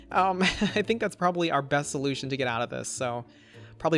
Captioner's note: chuckles